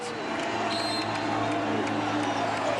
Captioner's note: whistle blows